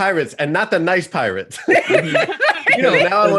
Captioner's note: laughter